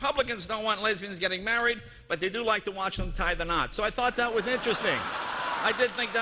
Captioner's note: laughter